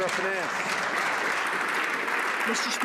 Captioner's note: some Applause